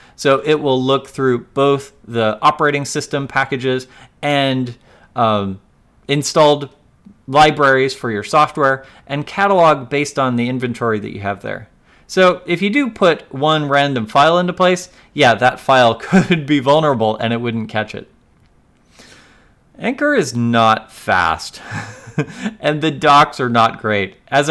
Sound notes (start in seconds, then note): 15.9 laughs; 21.6 laughs